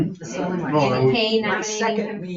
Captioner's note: group chattering